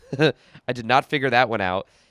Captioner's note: laughing